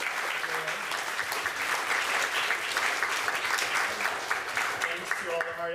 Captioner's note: applause